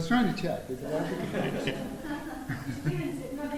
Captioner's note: chatter between the speaker and the crowd; woman from the crowd speaks